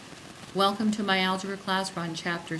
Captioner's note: voiceover